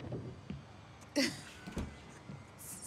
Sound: Maddie laughs

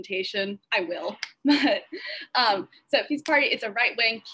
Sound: laughs

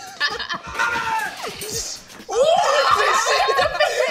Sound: man in video screaming; screaming; laughing

